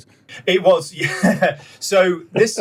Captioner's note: laughs